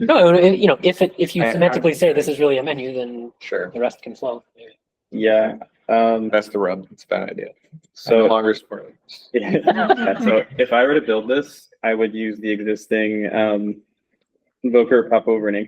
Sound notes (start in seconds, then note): 9.3 laughter